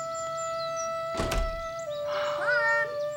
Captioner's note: door closes